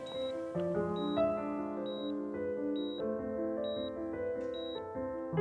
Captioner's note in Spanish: Sonido de los monitores